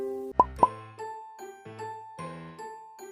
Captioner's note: popping noises